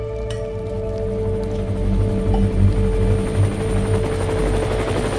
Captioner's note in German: Helikopter geräusch